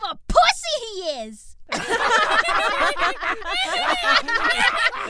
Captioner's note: Diane, Hawk and CuntFace laughing at Ban; starts laughing too hard